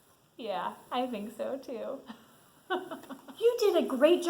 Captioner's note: laughs